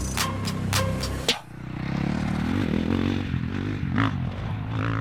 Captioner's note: music stops; engine revving